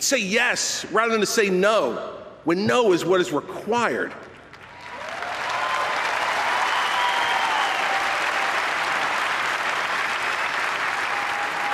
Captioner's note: applause